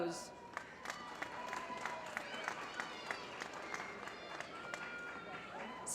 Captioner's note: applause